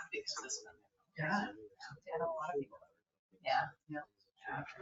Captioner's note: people chattering